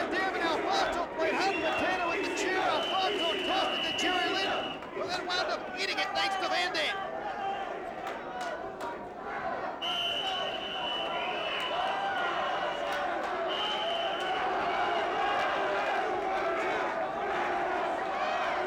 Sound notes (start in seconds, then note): 9.8 whistle blowing; 11.9 crowd cheering